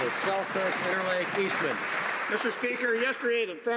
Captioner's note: some Applause